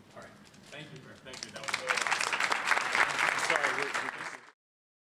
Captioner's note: applause